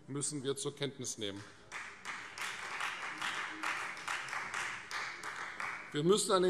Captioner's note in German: Beifall Freie Demokraten